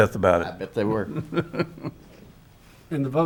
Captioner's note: chuckles